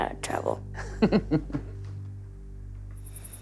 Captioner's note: laughing